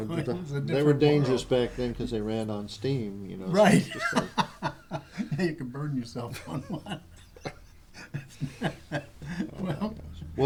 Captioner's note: laughter